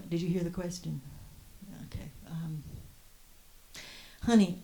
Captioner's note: draws a breath